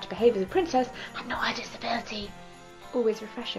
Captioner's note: whispering